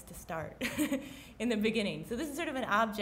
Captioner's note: chuckles